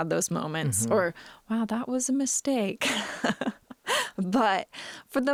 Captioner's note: laughing